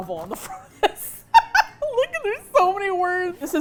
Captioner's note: laughs